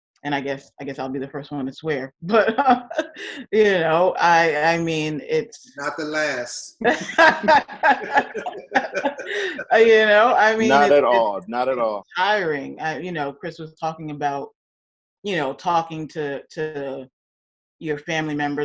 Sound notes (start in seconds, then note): 2.5 laughs; 6.8 both laugh